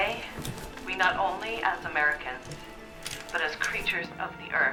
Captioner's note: woman: On radio